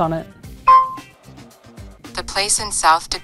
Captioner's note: pin beeping